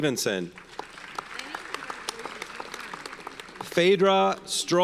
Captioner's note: audience applauds